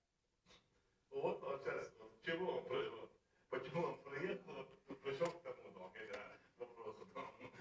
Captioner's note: speaking in russian